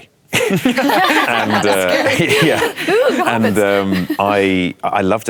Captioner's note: laughter